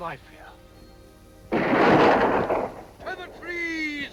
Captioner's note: gun fires